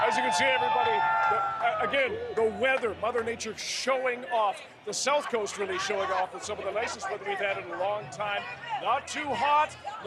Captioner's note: cheers and Applause